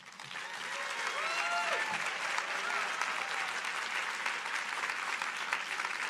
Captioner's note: audience applauding